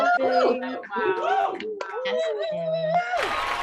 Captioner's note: cheers